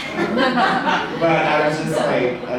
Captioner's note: audience laughs